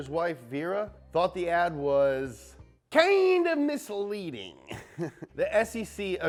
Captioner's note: laughs